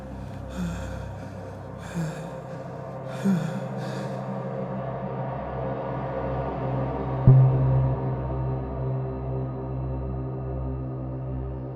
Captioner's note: man gasping